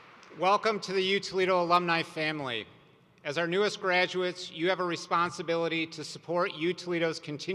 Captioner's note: applause